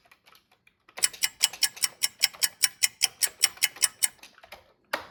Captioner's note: ticking clock